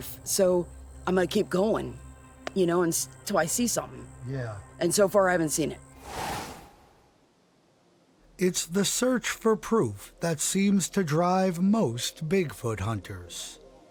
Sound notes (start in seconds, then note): 5.9 wind blowing; 6.0 air whooshing